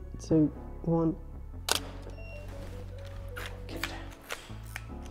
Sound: camera shutter clicks

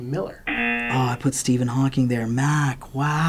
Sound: buzzer

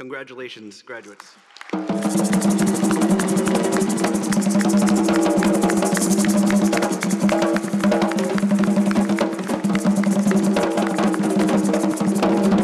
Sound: applause and drumming

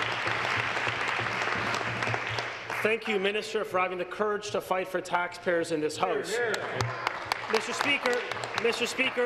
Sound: applause

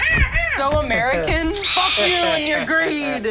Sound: eagle calling

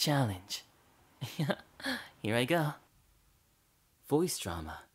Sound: laugh

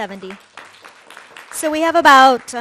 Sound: audience claps

